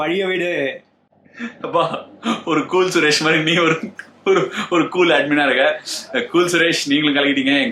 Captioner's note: laughs